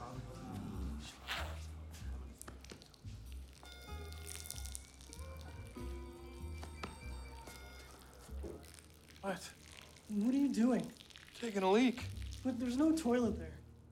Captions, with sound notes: (tapping) (sound of peeing) (tapping) - What? - What are you doing? - Taking a leak. - But there's no toilet there.